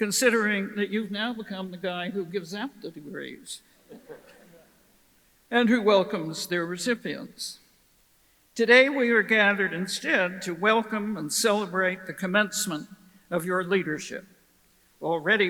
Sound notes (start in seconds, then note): 3.8 audience chuckles